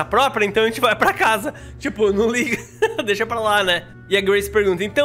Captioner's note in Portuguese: risos